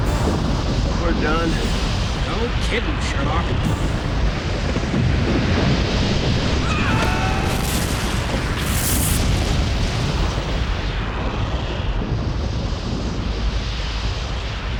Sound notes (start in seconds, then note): 6.6 both scream